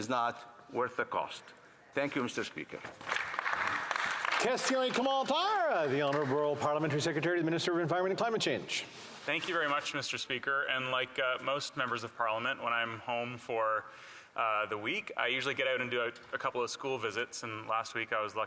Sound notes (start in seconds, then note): 6.7 applause